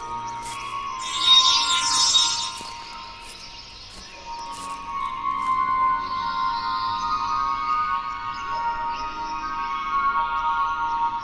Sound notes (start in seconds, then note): 1.0 electronic tone music continues; 3.6 birds chirping